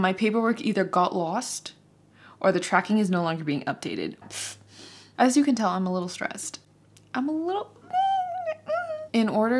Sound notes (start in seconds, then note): 4.6 sharply sighs; 8.2 squeaks